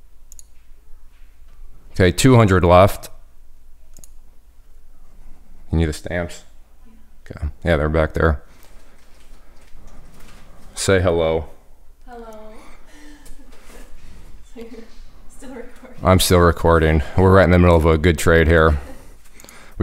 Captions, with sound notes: Okay. 200 left. You need the stamps? Yeah, they're back there. Say hello. Hello. (laughs) Still recording? I'm still recording. We're right in the middle of a good trade here.